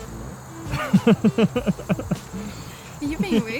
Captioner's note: laughter